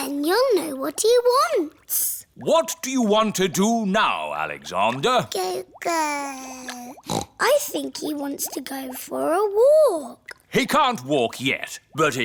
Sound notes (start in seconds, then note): 5.6 babbles; 7.0 snorts